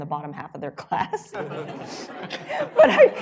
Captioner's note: laughter